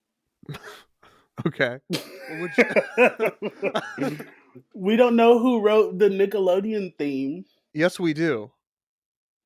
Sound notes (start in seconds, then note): 2.0 laughs